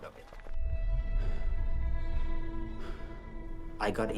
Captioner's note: breathes heavily